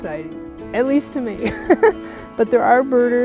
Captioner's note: chuckles